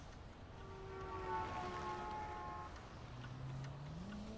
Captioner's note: horn honking